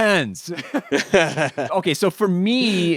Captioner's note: both laughing